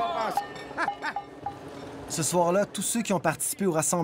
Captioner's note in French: rire